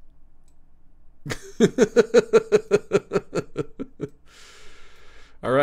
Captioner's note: laughs